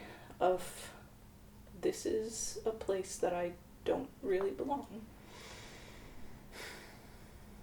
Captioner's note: sighs